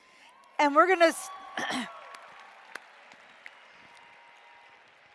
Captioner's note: applause